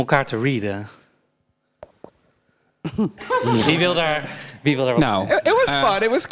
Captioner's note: crickets